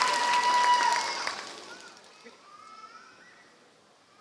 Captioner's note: applause